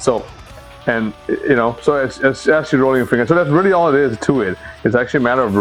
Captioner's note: stammers